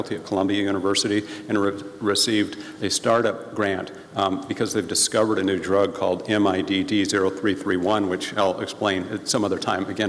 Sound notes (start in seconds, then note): none